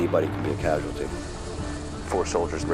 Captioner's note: rotor blades whir